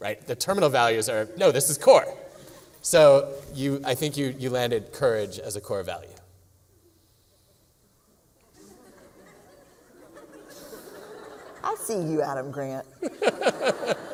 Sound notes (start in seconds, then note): 8.5 laughter